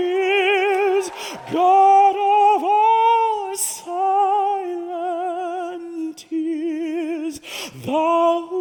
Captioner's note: cheering